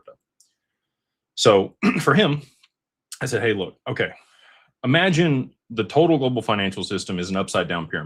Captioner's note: clears throat